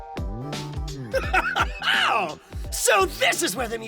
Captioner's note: Giovanni laughs